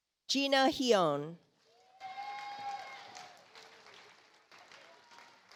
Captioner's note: audience applauds